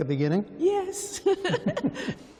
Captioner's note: laughter